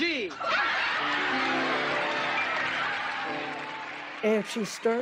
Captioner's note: audience cheering, applauding